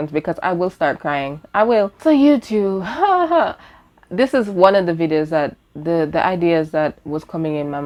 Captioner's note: fake giggles